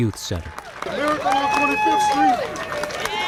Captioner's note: audience applauding